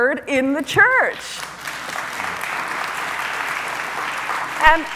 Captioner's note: audience applauds